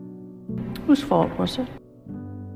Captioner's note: voiceover